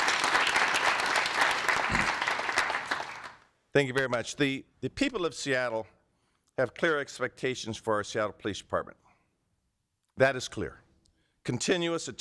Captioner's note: applause